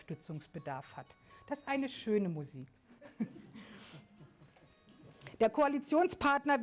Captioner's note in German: Handy klingelt - "oh - schöne Musik" Lachen